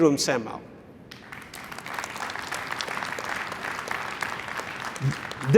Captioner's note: applause